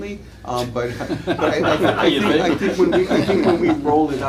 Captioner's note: laughter